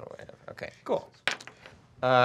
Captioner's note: dice clacking